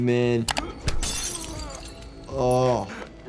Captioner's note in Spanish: vidrio roto